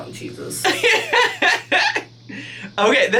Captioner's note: laughing